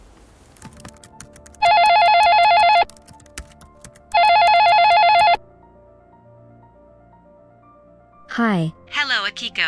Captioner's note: phone ringing